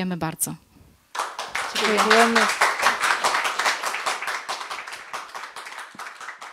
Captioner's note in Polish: oklaski